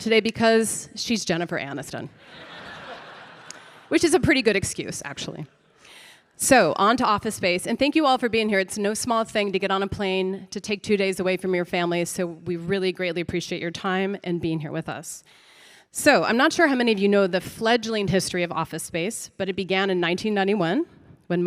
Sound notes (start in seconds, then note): 2.2 audience laughing